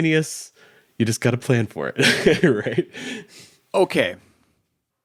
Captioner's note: laughs